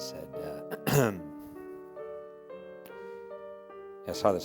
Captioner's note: clears Throat